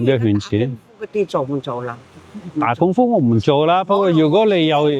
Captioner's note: speaking in foreign language